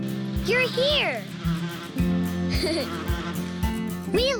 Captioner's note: giggles